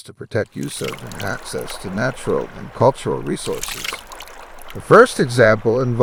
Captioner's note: fish splashing